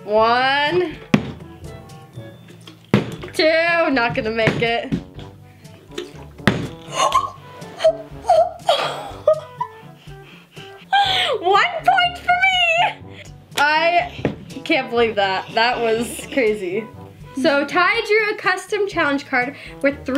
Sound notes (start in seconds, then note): 2.2 bottles landing; 5.9 bottle landing; 7.1 gasping